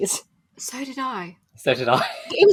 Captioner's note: laughing